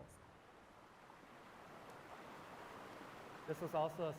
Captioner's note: water rushing